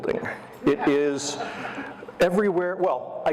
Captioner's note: audience laughter